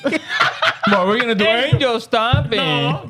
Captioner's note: laughing